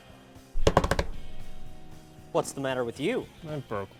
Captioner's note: drumming on table